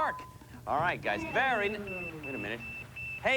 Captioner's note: beeping